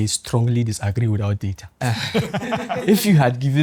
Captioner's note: laughs